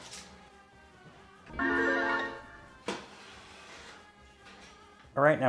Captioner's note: graphic chiming